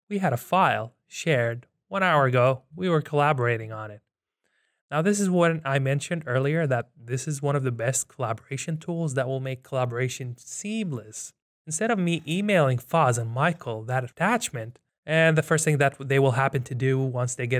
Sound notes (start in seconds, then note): none